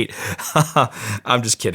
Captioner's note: laughing